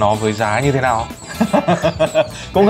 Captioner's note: laughing